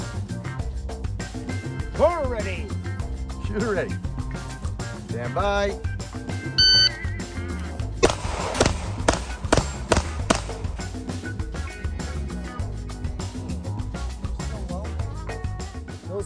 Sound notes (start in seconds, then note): 6.6 gadget beeps; 8.0 gunfire popping; 15.2 upbeat music